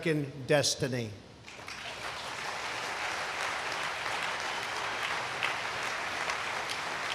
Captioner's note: applause